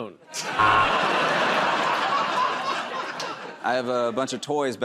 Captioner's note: laughter and applause; buzzer